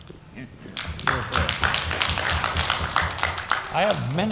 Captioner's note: applause